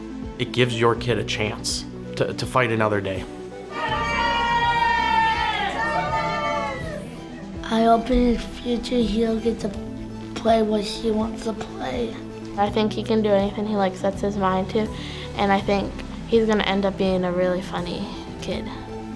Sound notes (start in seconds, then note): 3.6 cheering